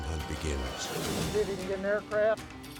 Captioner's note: dramatic whoosh